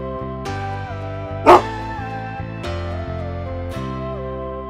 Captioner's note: dog barks